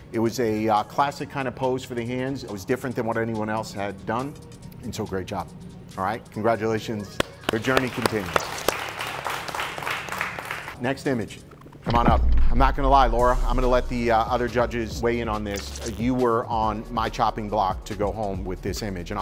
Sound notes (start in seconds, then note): 8.7 clapping